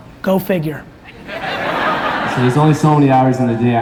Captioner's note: audience laughs